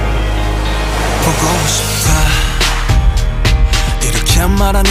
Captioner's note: train